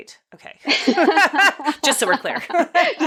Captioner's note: both laughing